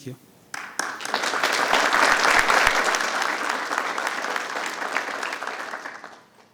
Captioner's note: attendees and members applauding